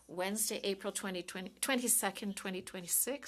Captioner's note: speaking in French